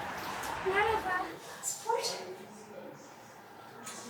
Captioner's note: in Turkish